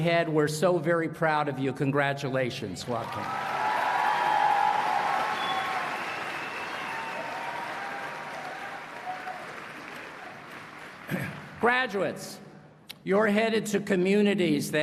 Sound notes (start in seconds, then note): 2.9 applause and Cheering